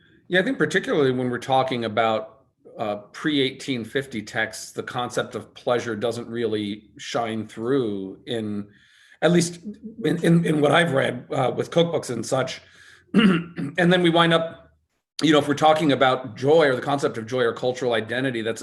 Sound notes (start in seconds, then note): 13.1 cough